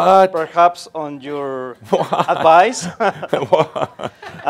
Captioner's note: they chuckle